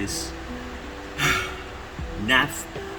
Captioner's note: sigh